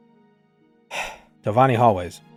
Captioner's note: sigh